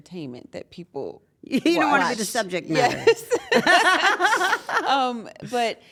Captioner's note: laugh